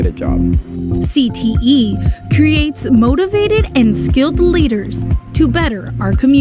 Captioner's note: voiceover